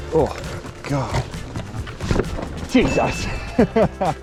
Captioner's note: wheels whooshing; laughing